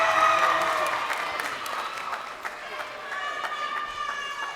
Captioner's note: crowd cheering